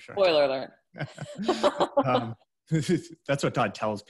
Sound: laughs

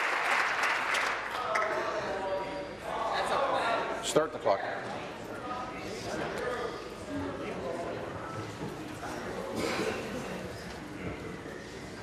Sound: applause

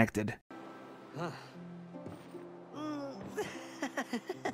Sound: laughter

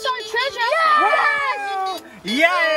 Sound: excited shouting

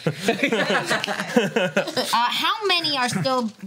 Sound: laughs

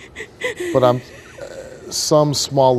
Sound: cries

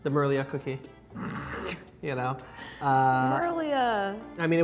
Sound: snorts

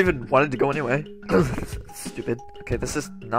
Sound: grunt

